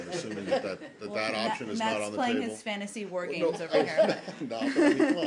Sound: laughter; laughter

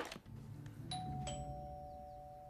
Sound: doorbell rings

